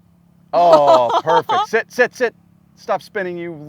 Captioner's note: laughs